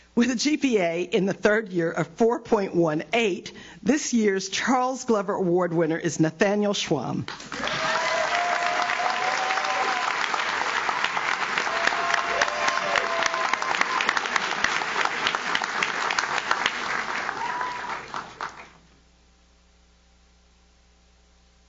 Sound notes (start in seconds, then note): 7.7 audience cheers; 7.7 audience claps